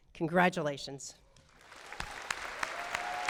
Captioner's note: applause